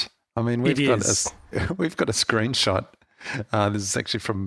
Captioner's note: laughs